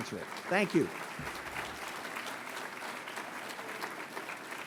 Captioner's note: audience clapping